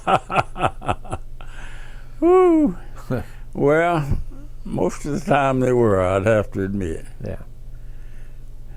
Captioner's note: laughs